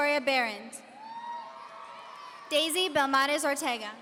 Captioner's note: audience cheering